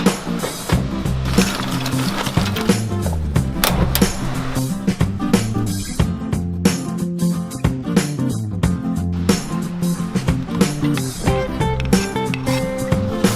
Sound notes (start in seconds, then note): 3.7 ignition sound